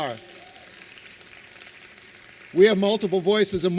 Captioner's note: applause